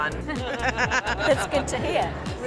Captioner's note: laughter